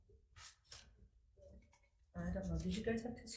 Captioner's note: papers rustling